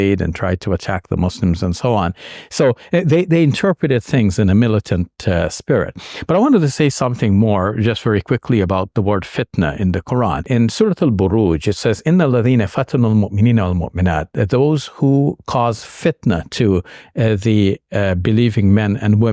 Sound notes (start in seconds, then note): 12.5 speaking in Arabic